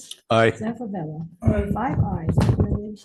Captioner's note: faintly speaking